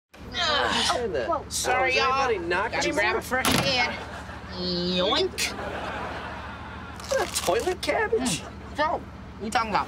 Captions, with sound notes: Don't say that. Sorry, ya'll. [overlapping chatter] And... yoink. It that toilet cabbage? So, what are we talking about?